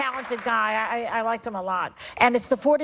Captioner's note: applause